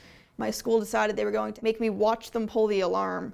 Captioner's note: none